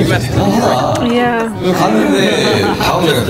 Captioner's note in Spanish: Ja ja ja